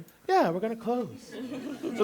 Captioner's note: laughter